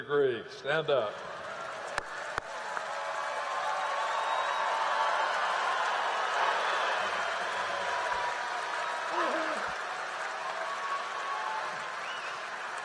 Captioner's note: cheering and applause